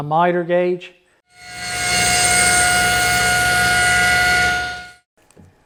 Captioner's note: miter gauge cutting